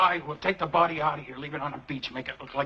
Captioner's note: none